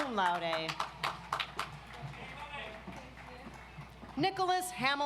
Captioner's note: audience applauds